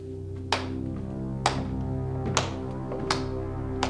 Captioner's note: suspenseful tones; hands clapping